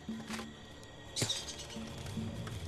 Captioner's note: chattering